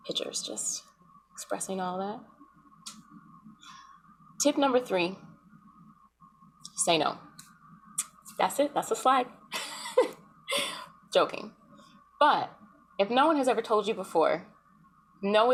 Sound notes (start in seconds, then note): 9.6 laughs